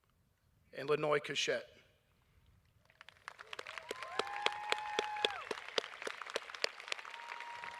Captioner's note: applause